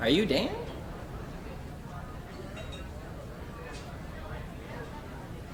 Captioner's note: people murmuring